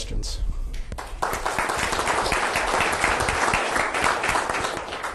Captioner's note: audience clapping